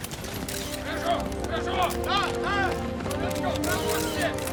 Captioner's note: shouting orders